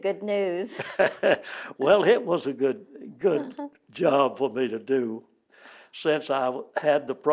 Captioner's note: laughter